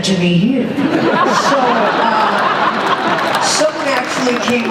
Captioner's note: laughter